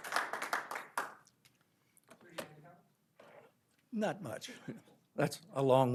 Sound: applause

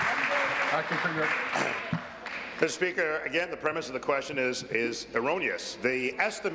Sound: applause

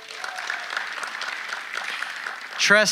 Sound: audience applauding

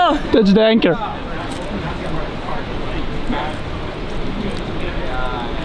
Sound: speaking foreign language

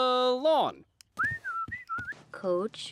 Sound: whistles

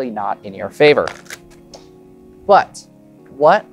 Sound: cards riffling

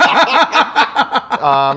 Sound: laughter

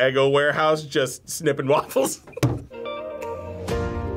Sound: laughs

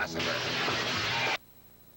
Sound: breaking glass

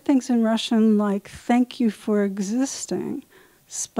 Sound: speaking in Russian

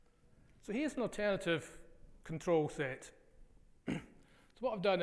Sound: coughs

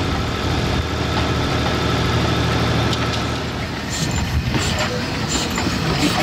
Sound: brakes squealing; motor humming

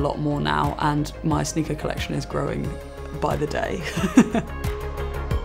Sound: laughs

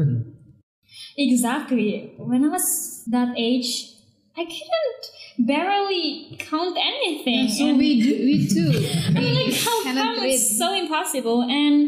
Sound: laughing

